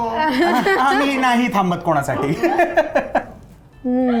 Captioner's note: laughs; laughs